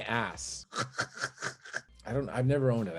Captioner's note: laughing